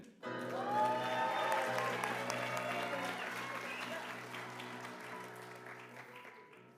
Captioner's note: applause